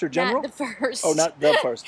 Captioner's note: laughs